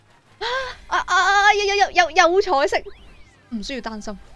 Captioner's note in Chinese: 吸气